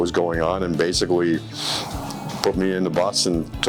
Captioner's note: sniffling